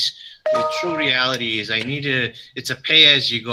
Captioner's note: computer one dings